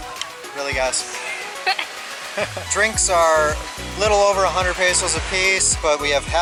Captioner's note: laughter